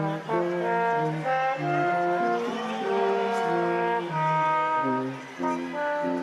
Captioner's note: instrumental music continues; crowd applauding